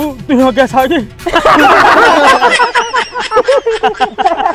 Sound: laughing

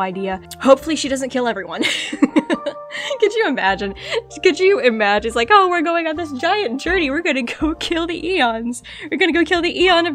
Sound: laughs

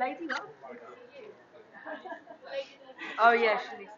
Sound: chattering

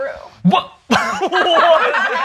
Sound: laughter

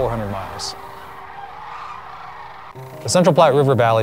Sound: bird sounds

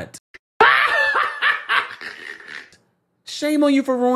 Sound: Chucky laughing maniacally

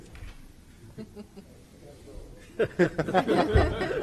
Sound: group laughs

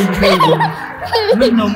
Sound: laughter

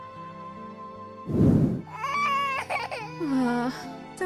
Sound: baby Ruby crying

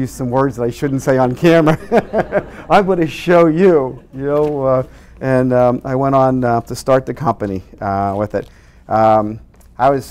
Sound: laughs

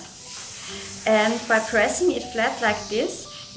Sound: iron hisses

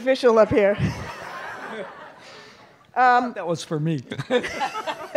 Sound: laughter

